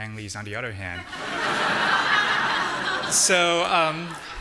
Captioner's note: audience laughing